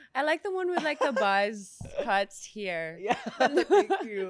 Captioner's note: laughs